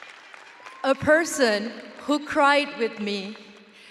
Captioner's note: audience cheering and applauding